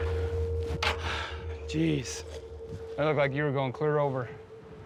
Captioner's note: thud